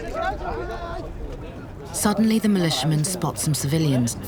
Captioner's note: shouting